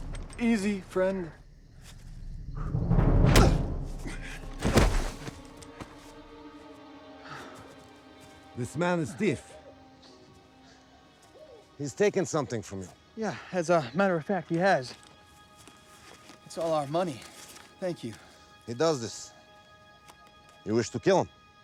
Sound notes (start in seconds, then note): 3.9 loud grunt